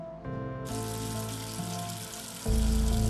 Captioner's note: faucet running